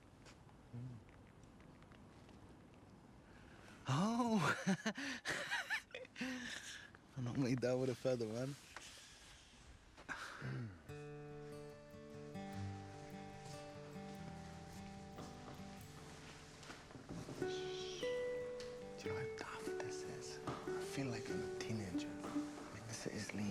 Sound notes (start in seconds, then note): 4.8 laughs; 11.5 gentle music